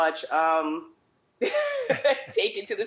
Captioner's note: laughing